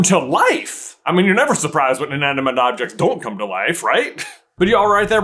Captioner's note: chuckles